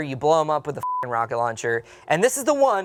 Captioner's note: beep